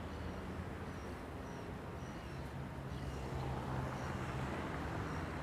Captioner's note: birds chirping